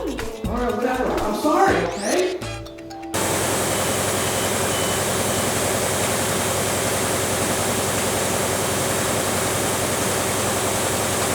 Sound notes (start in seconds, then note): 3.1 machine running